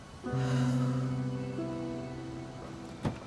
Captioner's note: sighs